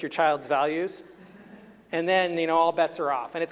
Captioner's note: chuckling